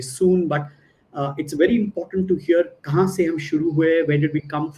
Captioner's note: non-english speech